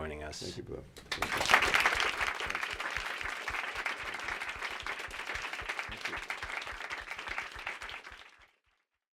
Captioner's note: applause